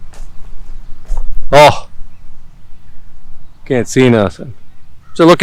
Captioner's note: grunt